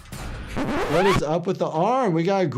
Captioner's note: tape squealing